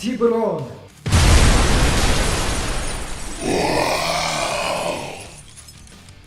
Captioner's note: flames roar louder as monstrous growl erupts within before vanishing swiftly